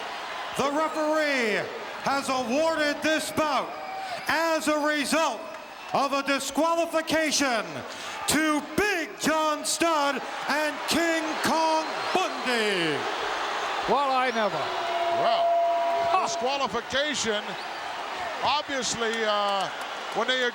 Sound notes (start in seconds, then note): 12.5 audience cheering